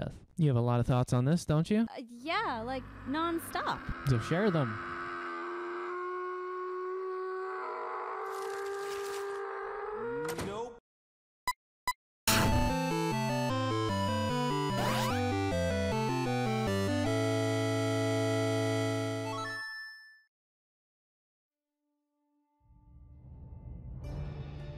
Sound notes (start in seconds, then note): 4.7 inhuman screaming; 10.1 door closing; 11.3 electronic beeping